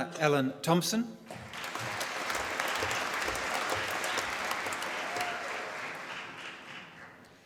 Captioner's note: applause